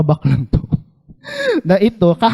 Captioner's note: chuckles